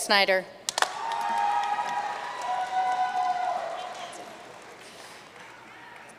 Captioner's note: audience cheering and applauding